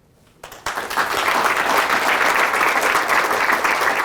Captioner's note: applause